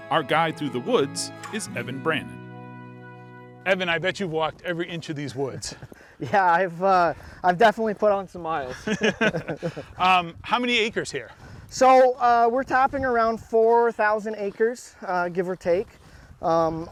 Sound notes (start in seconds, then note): 8.7 both laughing